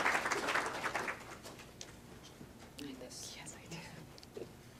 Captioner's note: clapping